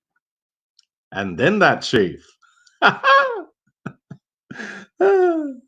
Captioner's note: laughing